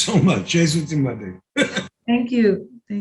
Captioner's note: speaking in foreign language